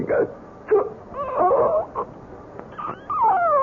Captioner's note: sobbing